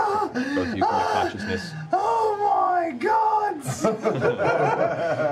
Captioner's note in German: schnappt nach Luft